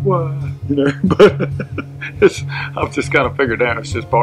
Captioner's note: chuckle